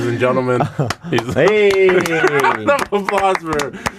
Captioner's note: applause